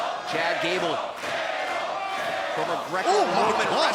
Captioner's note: crowd cheering